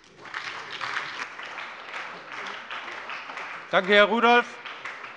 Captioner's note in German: Beifall bei der SPD